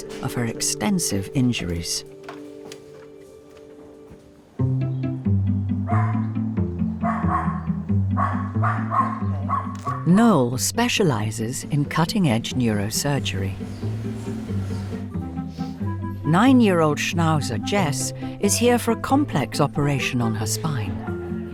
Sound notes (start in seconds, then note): 4.7 bright music; 5.8 dogs barking